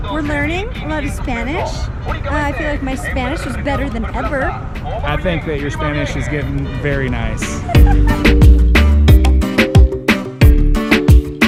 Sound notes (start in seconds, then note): 7.4 laughs; 8.6 rhythmic music